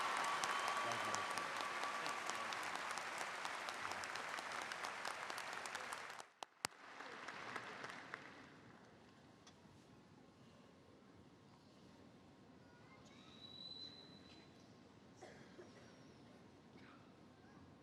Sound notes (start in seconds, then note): 2.1 applause